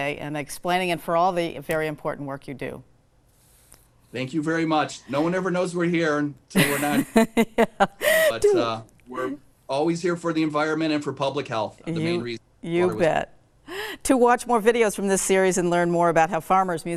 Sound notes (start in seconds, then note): 7.6 laughs